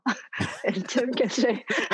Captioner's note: all laugh